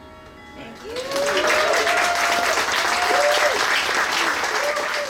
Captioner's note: cheering